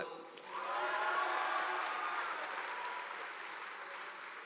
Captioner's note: audience applauding